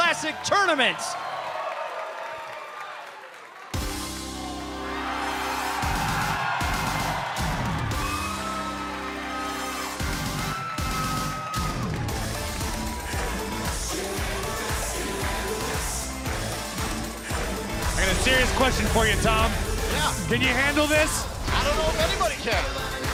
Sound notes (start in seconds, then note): 6.3 crowd cheering